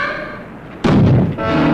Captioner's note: door slamming; suspenseful music